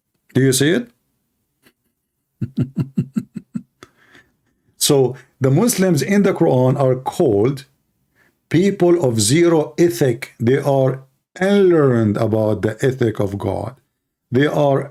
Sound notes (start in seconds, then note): 2.4 Ketawa